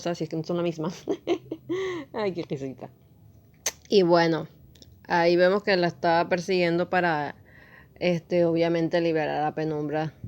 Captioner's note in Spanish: risas